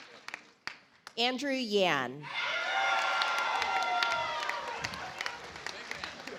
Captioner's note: audience applauds